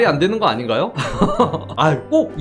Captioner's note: laughing